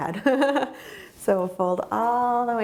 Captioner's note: laughing